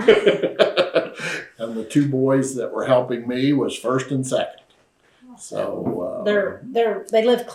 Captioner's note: laughs